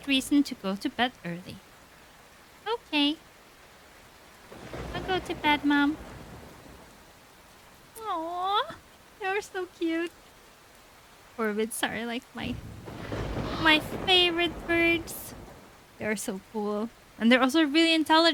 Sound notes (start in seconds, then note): none